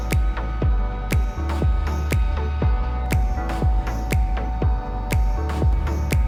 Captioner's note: none